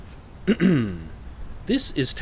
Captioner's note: clearing throat